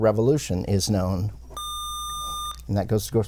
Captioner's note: buzzer